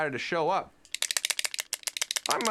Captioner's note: clacking